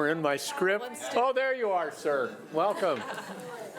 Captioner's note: audience laughing